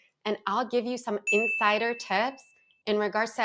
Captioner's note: text chimes